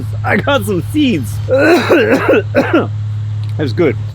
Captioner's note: John coughs